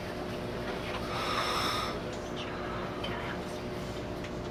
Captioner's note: inhales Deeply, Exhales